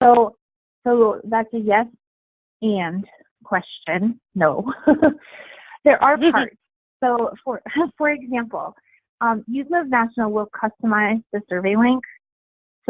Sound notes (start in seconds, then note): 4.7 chuckling; 6.2 murmuring